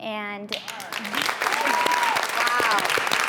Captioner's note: applause